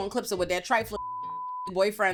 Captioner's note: beep